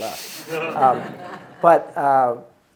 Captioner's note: audience laughing